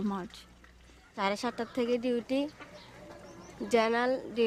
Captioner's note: speaking non-english